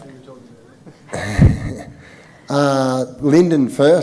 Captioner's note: laughing